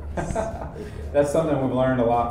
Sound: laughs

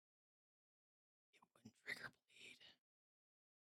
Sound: quietly

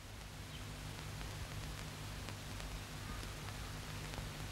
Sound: birds singing

